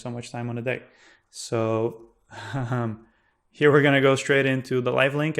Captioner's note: laughing